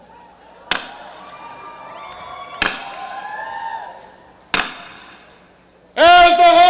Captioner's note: banging